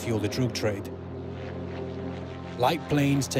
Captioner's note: aircraft engines drone